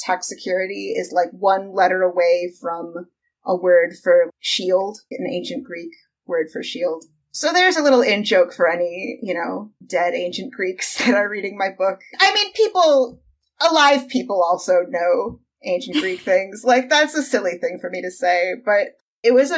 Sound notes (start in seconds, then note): 15.9 laughs